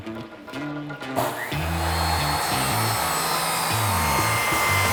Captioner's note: whirring